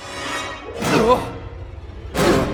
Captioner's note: gasp; horrified gasp